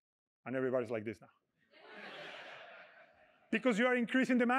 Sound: laughter

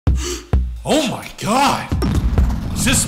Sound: gasp

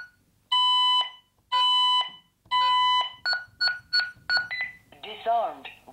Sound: alarm beeping

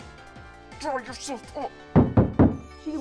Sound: whisper yell

